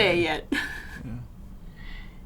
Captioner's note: chuckles